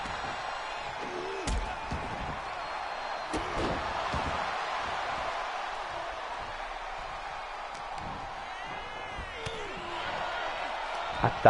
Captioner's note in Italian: Applauso